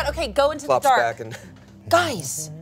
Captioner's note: hums